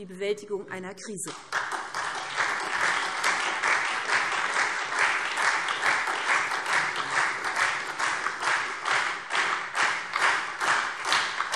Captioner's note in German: Anhaltender Beifall SPD und Freie Demokraten